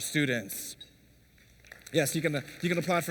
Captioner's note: applause